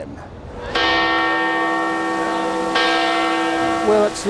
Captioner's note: bells tolling